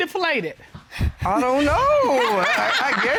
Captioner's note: laughs